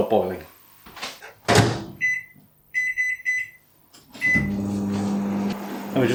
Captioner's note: ping buzz whirr